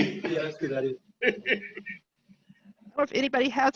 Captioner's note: chuckling